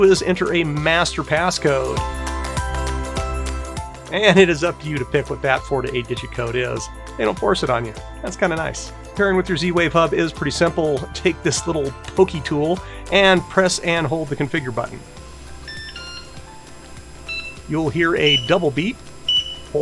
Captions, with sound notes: is enter a master passcode. And it is up to you to pick what that four to eight digit code is, they don't force it on you, that's kinda nice. Pairing with your Z-Wave hub is pretty simple. Take this little pokey tool and press and hold the configure button. (beeping) You'll hear a double beep,